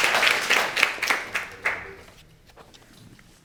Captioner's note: audience applauding